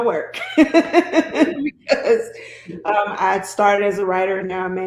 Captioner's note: laughs